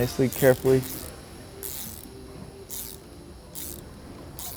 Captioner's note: tool clicking